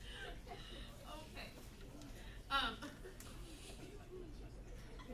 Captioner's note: soft chanting of "teeth teeth"